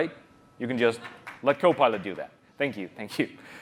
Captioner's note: applause